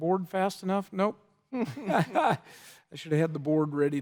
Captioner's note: laughs